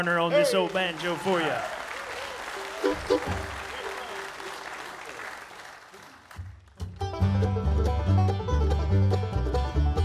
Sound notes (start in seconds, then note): 1.5 audience cheering; 2.6 audience laughing; 6.7 bluegrass music